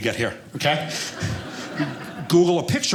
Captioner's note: audience laughing